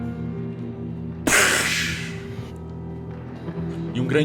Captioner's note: explosion noise